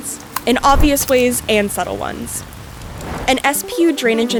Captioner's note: rain sound